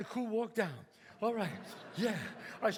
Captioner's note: audience laughs